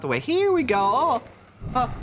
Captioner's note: monster growl